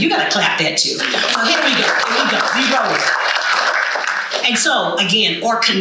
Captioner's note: audience applauding